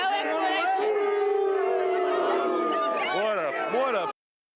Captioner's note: crowd boos